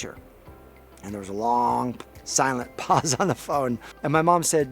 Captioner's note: chuckling